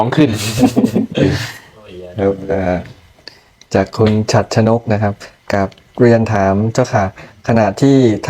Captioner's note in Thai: เสียงหัวเราะ